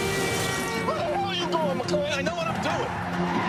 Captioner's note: car hoots; tires critches